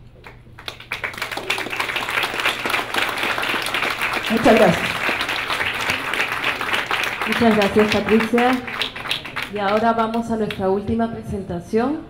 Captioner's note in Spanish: Aplausos